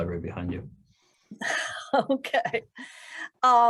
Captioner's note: laughter